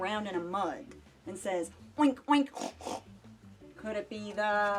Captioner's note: snorting